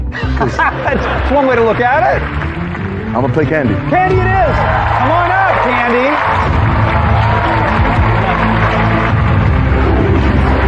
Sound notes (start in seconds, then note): 3.8 cheering and applause